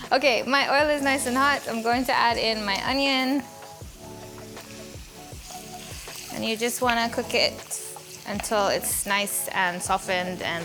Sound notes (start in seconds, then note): 4.4 onion sizzles